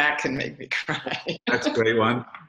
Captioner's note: laughs